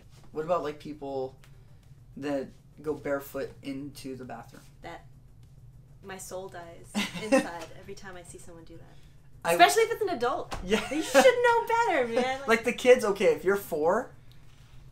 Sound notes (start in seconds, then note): 6.9 laughter; 10.7 laughter